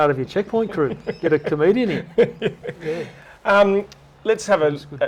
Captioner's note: laughter